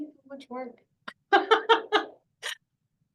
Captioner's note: laughs